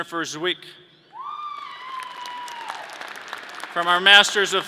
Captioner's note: audience cheering